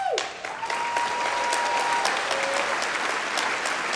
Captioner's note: applause